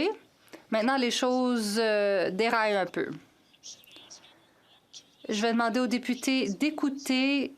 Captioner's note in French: voix de l'interprète